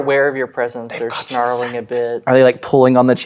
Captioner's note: whispers